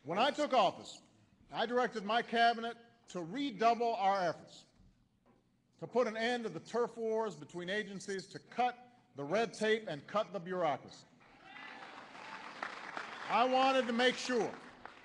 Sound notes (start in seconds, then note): 11.2 applause